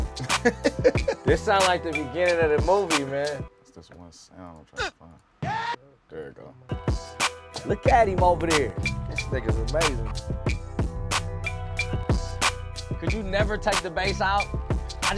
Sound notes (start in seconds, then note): 0.2 laughs; 5.4 man yells; 7.0 rap beat; 10.2 rap beat